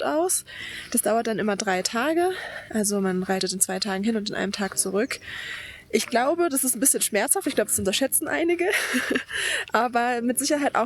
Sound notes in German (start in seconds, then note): 8.6 gelächter; 9.7 japst